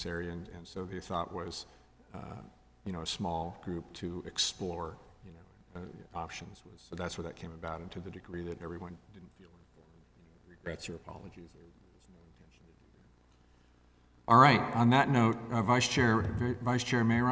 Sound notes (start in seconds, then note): 10.6 speaks faintly